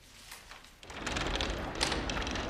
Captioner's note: clattering